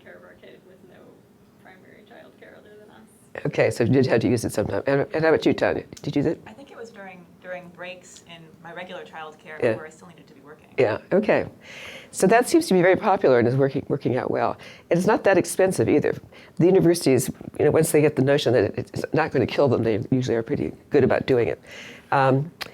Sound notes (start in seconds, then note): 7.2 voiceover